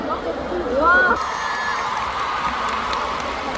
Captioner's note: the sound of sincerity in the applause